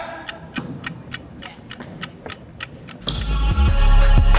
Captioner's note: clock ticking; upbeat music